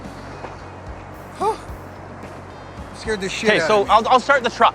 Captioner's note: exclaims